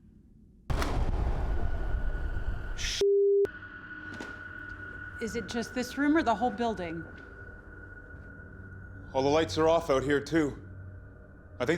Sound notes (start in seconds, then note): 0.8 electricity whirring down; 0.8 frightening music